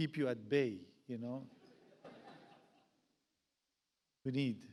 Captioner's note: audience laughs